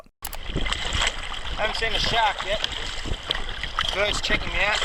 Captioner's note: water splashing